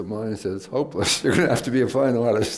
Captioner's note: laughs